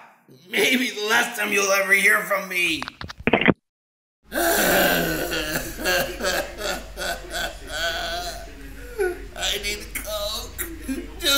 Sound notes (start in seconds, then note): 4.3 Billy crying